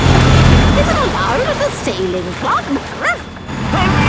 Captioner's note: barks